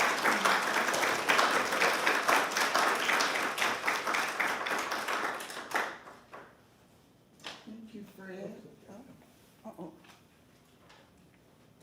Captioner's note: applause